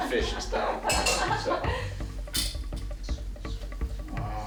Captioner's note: laughing